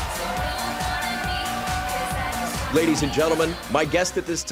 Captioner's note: crowd cheering